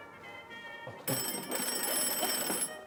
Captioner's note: ringing